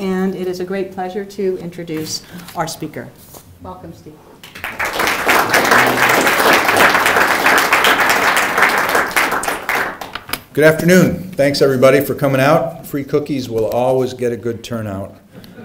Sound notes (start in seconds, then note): 4.4 applause